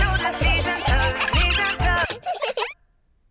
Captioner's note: giggling; music stops